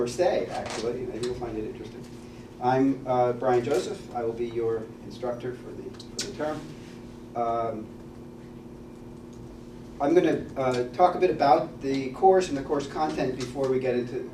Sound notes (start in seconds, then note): none